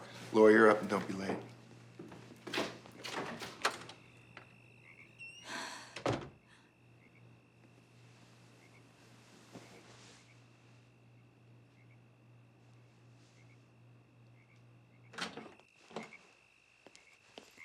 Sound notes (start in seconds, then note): 4.6 door closes; 5.4 sighs